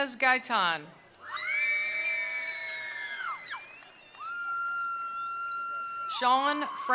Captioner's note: attendees cheering; attendees applauding